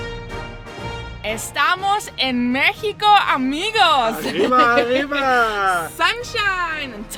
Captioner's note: both celebrating in Spanish